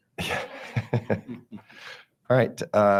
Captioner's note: board members chuckling